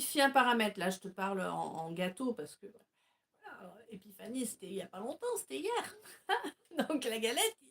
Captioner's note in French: rires